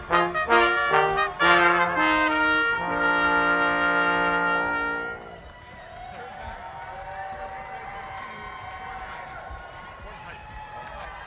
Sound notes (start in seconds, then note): 6.2 audience cheering